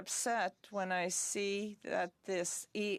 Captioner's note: speaking French